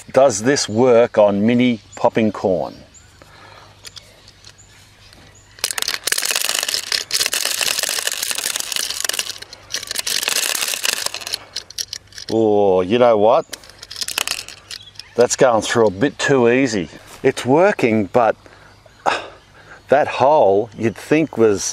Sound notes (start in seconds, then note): 5.5 tinkling